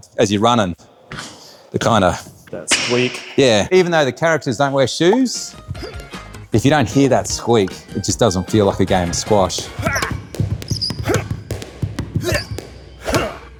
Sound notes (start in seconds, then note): 1.0 shoes squeaks; 10.2 characters grunting